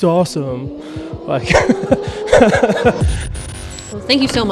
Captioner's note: laughs